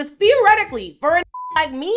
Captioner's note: beep